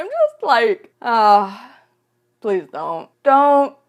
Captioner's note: sigh